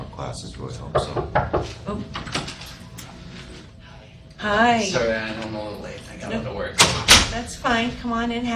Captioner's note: knock at door